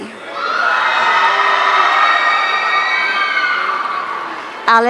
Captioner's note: audience cheering